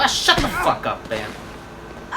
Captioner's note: punches